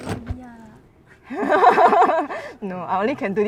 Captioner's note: laughs